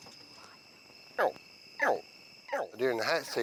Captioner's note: alligator chirping